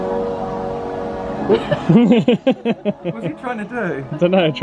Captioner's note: people laughing